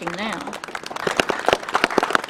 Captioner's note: clapping